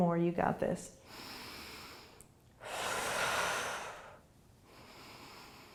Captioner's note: deep breathing